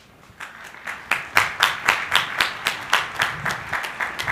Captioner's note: crowd applauding